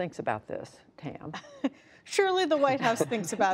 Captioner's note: laughter